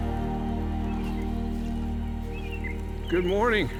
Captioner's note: birds chirping